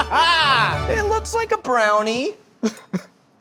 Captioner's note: sighs and laughs; laughs